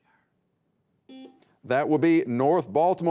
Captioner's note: beep